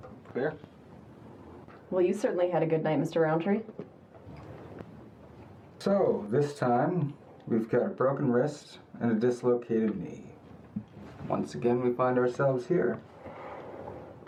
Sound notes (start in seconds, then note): none